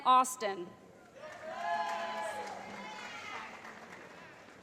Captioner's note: cheering